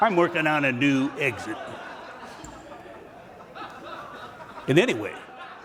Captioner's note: laughing